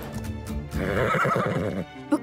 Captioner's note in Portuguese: cavalo resfolegando